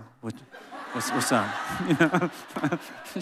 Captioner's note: laughing